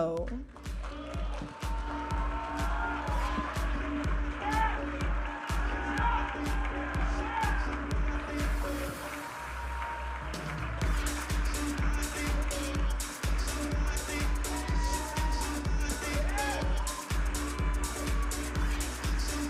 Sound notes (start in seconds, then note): 1.3 audience applauding and cheering; 4.6 upbeat music